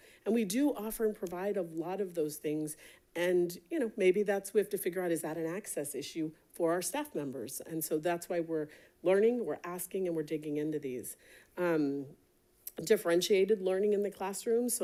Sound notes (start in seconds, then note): none